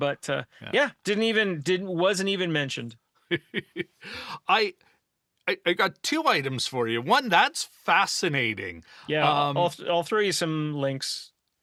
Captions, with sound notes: but yeah, didn't even, wasn't even mentioned. (laughs) I got two items for you, one that's fascinating. Yeah, I'll throw you some links.